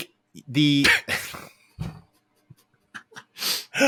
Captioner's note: laughing